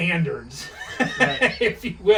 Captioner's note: laughs